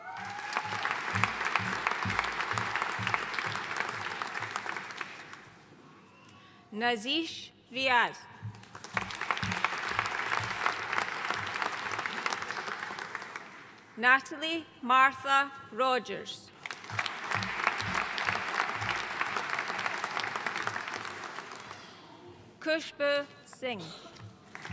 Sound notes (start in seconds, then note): 0.0 audience cheering and applauding; 8.5 audience applauding; 16.6 audience applauding